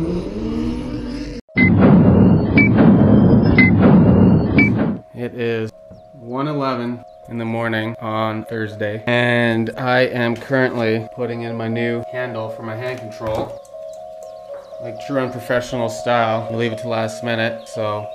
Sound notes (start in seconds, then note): 1.5 digital beeping